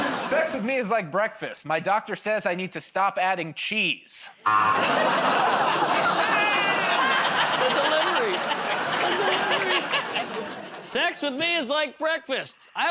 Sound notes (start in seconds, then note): 4.4 buzzer; 6.1 laughs